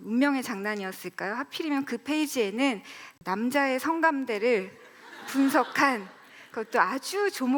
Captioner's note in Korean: 웃음